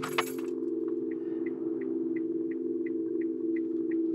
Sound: blinker clicks

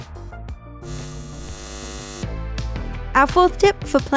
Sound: static buzzing

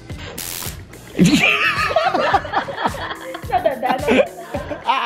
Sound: everyone laughs

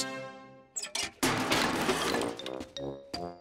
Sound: banging

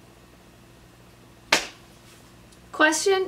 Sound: slaps legs

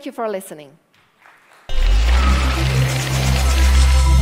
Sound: applause

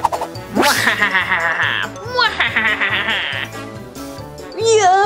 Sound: evil laughter

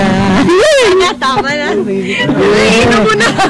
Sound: giggles

